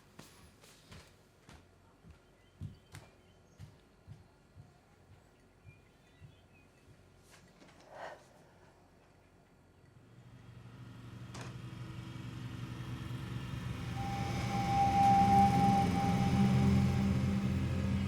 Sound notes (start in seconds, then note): 7.8 exhales; 14.3 engine rumbling